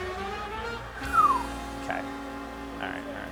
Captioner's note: whistles